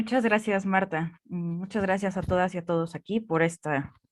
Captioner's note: speaking in Spanish